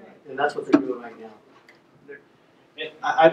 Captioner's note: voiceover